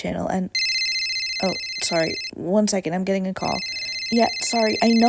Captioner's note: phone ringing